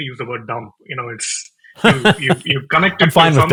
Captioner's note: laughing